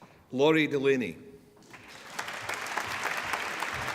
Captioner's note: applause